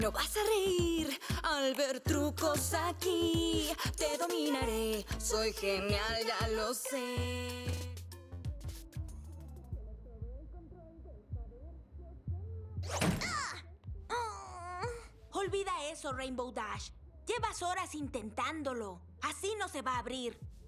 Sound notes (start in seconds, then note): 8.8 song continues muffled; 14.1 groan